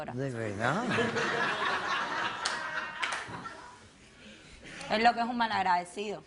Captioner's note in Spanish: Risas del público